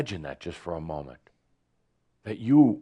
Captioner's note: none